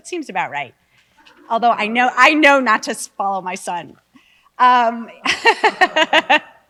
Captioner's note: laughs